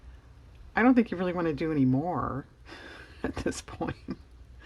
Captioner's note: laughs